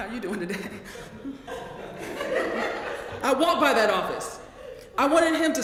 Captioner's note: laugh